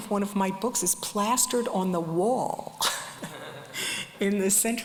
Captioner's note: laughs